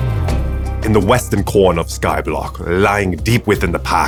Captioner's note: bad aussie accent